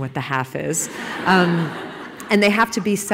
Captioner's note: laughing